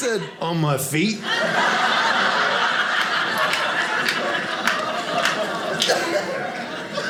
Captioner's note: audience laughing